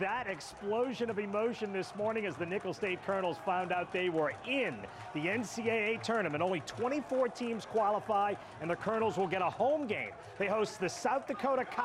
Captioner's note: cheering